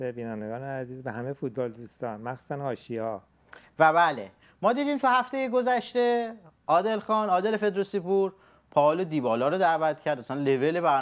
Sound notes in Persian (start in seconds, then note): none